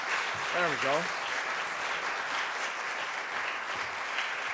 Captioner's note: applause